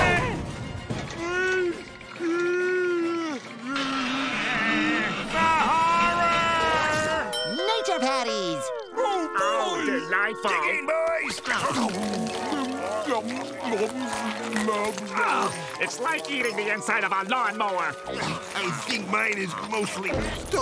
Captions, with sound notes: Ice cream! [groaning] The horror! Nature Patties! - Oh, boy! - How delightful! Dig in, boys! [munching] Ugh! It's like eating the inside of a lawnmower. Ack! I think mine is mostly stones.